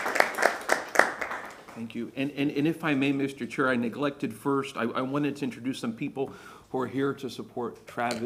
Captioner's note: applause